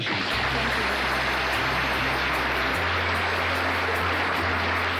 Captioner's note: audience applauds